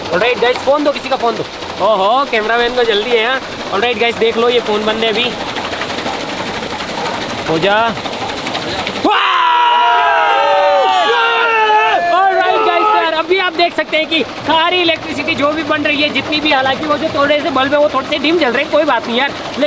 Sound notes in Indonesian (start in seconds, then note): 5.4 Suara turbin; 8.0 Suara turbin; 9.0 Teriakan